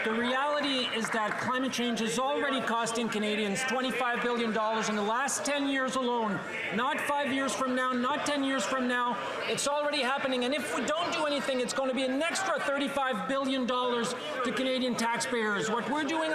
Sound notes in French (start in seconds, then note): 3.3 voix de l'interprète